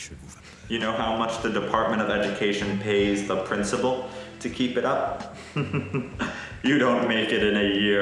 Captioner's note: laughs